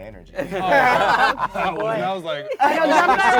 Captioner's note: laughing